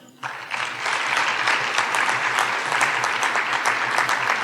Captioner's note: audience applauding